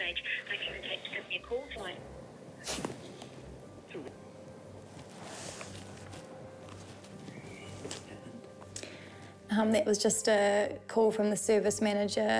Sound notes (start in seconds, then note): 5.1 sniffles